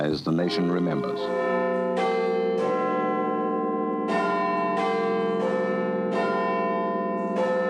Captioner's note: bell tolls